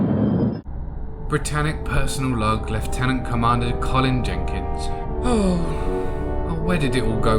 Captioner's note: sigh